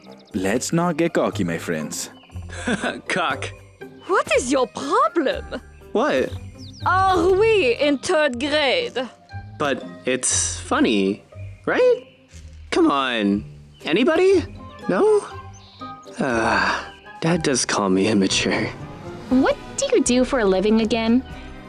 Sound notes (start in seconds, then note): 2.5 chuckles; 16.2 sighs